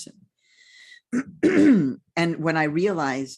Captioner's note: clears throat